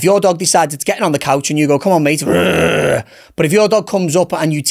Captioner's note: growls